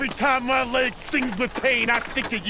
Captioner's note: fire crackles